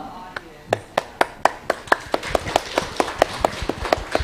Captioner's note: applause